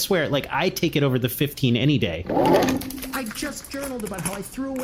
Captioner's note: happily